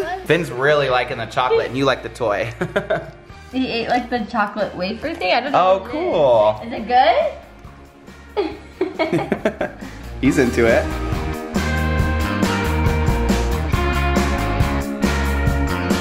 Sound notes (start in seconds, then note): 2.5 laughs; 8.3 laughing; 11.2 lively music